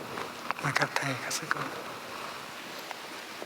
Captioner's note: Vietnamese